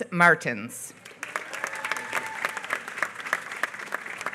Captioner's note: applause